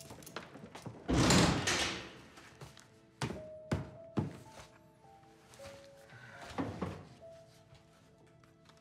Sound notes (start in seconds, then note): 1.1 door slams; 5.6 sighs